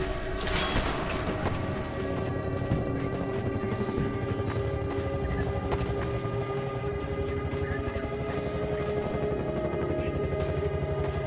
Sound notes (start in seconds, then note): 1.5 distant helicopter blades whirring; 4.2 footsteps